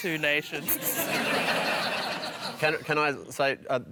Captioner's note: laughter